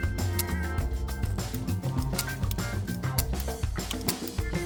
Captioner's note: gun clicking